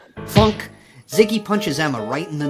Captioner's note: punch thudding